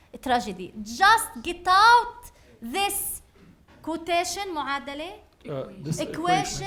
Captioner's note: speaking arabic